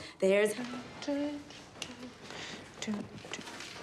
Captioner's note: hums